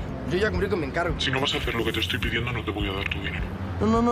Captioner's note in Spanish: voz distorsionada